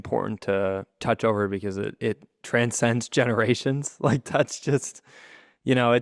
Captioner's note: laughs